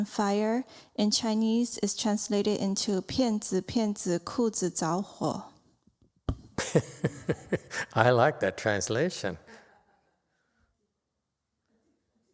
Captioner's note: laughter